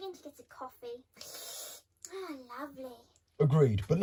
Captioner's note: slurps